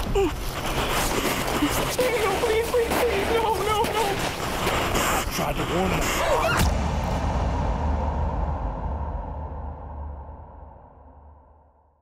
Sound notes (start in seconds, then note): 0.0 whimpers; 6.2 screaming; 6.6 metallic slamming